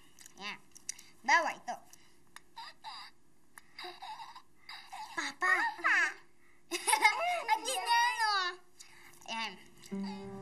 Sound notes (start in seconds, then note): 4.3 giggles; 6.7 both giggle